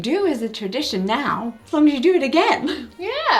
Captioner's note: laughs